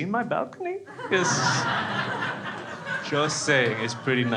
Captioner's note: crowd laughs